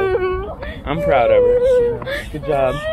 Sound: overwhelmed whimpering

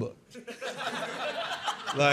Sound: laughter

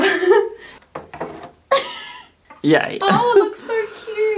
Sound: laughing

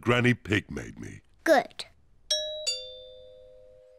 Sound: doorbell rings

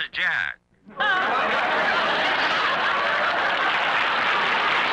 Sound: audience applauds

